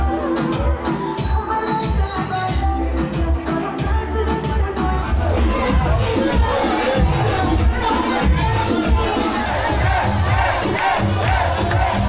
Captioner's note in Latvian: Aplausi